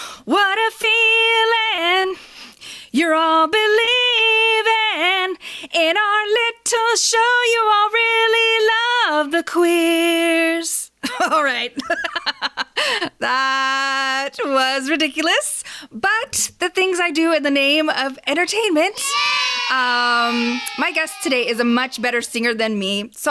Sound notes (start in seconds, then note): 12.3 laughs; 18.9 children saying “yay”